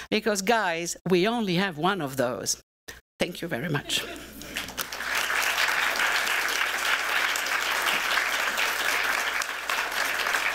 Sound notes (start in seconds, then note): 4.4 applause